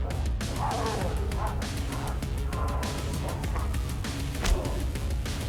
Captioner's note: mellow upbeat music; creature grunting; blow thudding